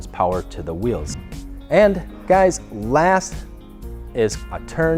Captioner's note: whoosh